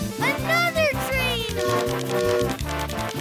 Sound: train horn blaring

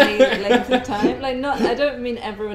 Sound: laughs

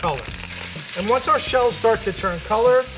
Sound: pan sizzling

